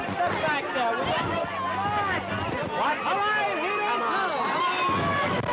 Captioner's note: lively chatter